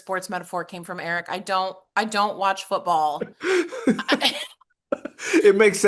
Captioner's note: laugh